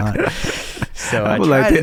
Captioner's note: laughing